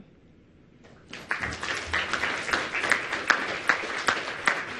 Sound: audience applauding

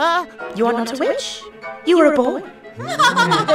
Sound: echoing; eerie, distorted laughter

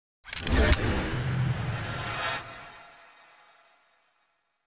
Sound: air swooshing

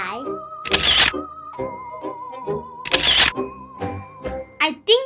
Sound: camera flashing

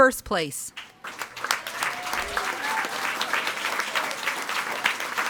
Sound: audience applauding

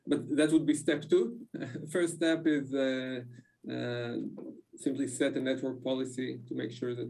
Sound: laughs

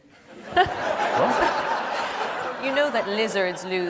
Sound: audience laughs

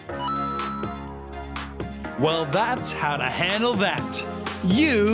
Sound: chime

